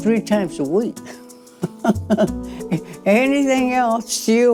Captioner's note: laughs